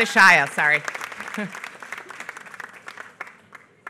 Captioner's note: applause